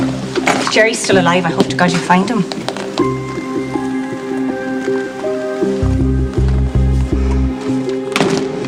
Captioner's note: door shuts